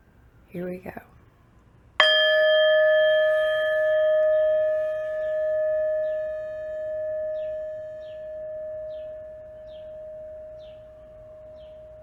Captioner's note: singing bowl rings